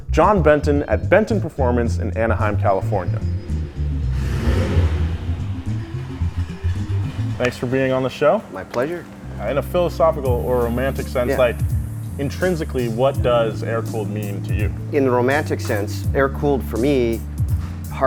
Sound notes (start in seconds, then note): 4.1 engine revs